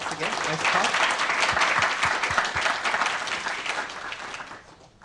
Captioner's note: applause